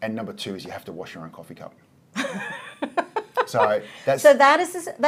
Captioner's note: laughs